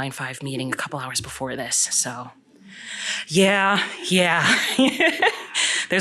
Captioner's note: laughter